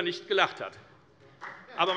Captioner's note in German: Beifall bei der FDP